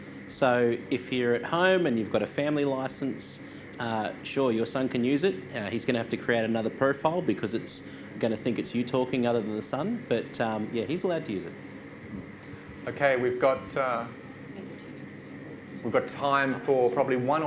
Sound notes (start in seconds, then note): none